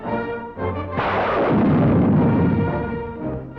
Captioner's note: exciting music; gunshot